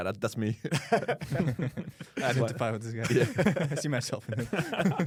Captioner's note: laughs